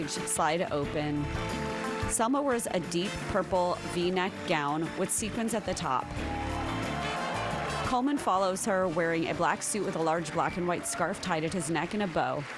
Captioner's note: applause